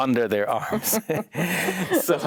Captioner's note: both chuckling